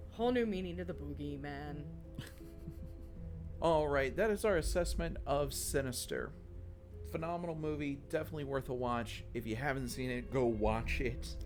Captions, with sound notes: Whole new meaning to the boogie, man. (chuckles) All right, that is our assessment of Sinister. Phenomenal movie, definitely worth a watch. If you haven't seen it, go watch it.